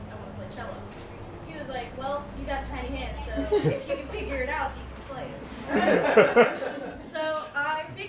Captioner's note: laughter